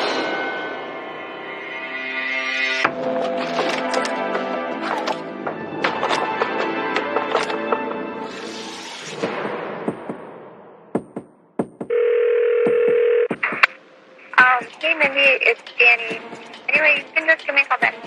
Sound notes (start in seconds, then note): 11.8 phonene r ringigingn